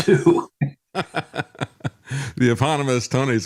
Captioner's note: laughing